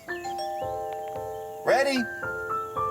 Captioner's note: doorbell